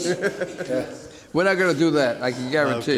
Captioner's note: laughs